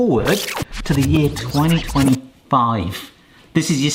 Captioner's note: record speeding up